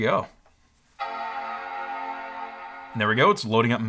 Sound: computer chimes

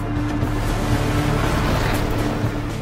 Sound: vehicle Screeching

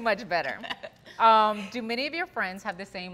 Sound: laughing

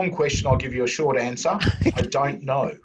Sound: laugh

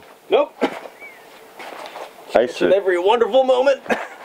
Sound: laughs

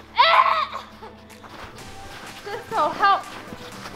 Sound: grunts

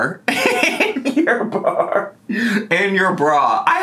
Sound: laughs

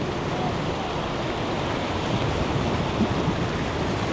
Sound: waves crashing

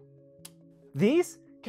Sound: click, Circuit Breaker

